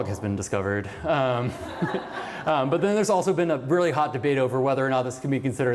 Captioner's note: laughter